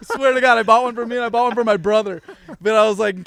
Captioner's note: all laughing